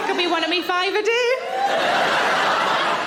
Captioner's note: audience laughing